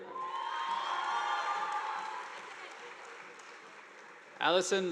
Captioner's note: audience applauding